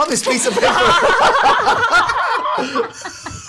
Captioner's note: laughter